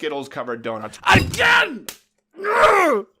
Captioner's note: fist palm